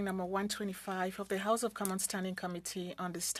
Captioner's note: speaking French